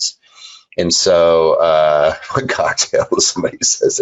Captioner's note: laughing